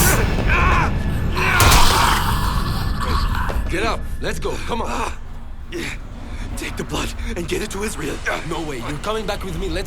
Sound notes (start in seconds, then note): 3.6 screams & snarls